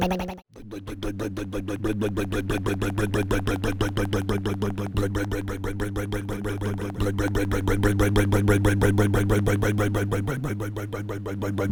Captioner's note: rumbling motor